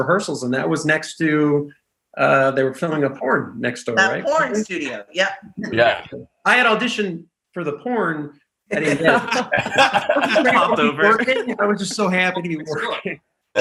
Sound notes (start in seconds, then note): 8.8 actors laughing